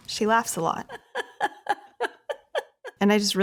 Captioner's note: Leslie laughs